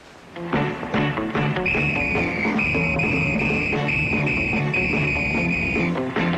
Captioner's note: lively music; whistle blowing